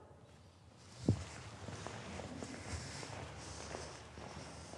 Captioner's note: footsteps scuffing